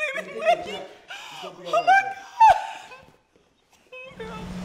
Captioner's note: engine rumbling